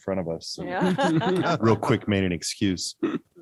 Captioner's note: all laugh